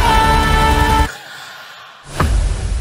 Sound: gasps

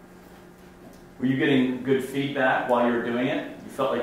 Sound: voiceover

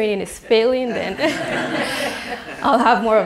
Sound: laughter

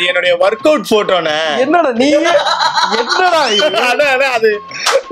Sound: laughs

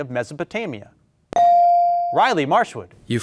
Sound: beep

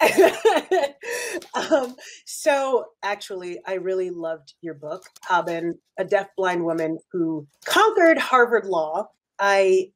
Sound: laughs

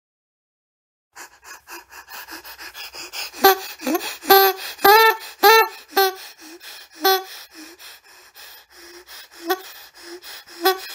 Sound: sound of goose

